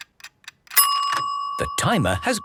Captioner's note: dinging